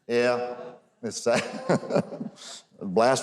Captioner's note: giggles